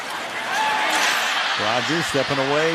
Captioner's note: cheering